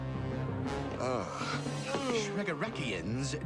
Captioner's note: groans